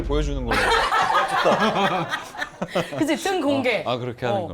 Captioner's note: laughter